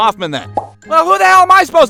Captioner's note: pop